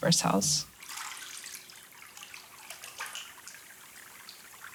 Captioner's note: water trickling